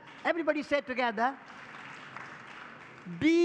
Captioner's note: public applause